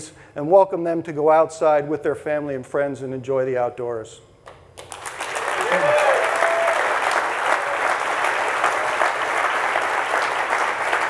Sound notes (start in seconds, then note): 4.8 audience applauding; 5.0 audience cheering